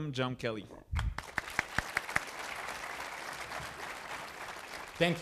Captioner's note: audience applauding